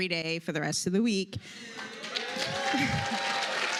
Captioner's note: applause